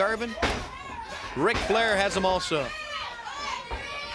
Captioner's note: crowd cheering